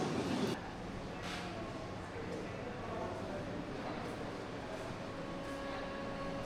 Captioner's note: people chattering